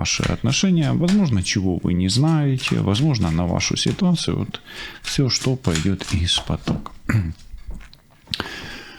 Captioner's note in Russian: откашливается